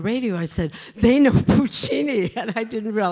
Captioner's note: chuckles